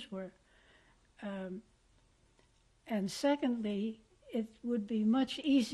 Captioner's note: pauses for 3 seconds